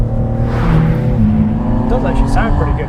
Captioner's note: engine growls and purrs